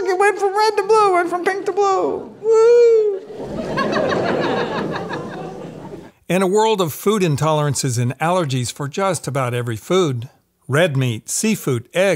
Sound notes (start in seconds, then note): 3.0 audience laughs